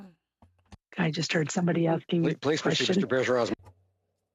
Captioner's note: speaking French